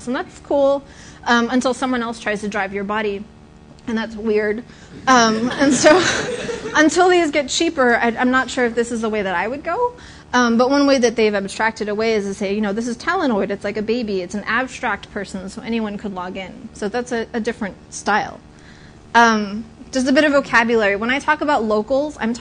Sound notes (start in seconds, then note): 5.2 laughter